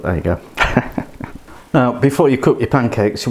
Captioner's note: laughs